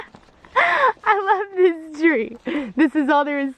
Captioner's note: laughing